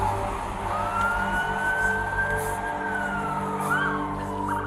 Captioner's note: sirens